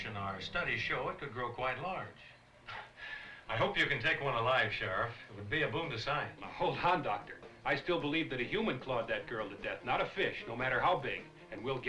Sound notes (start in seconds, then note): 2.0 chuckles